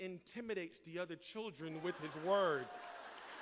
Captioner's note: laughter